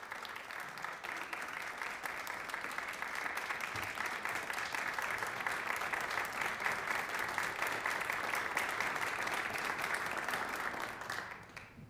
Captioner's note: applause